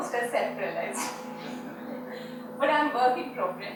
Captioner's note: audience laughs